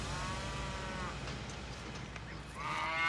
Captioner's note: steer mooing